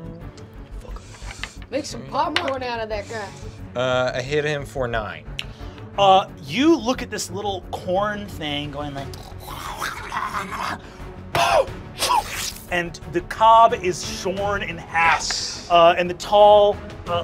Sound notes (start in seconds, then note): 9.2 snarls; 11.9 poofs